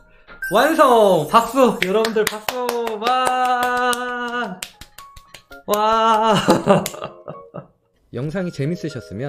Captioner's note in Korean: 웃음